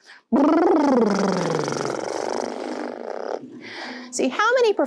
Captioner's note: blowing raspberries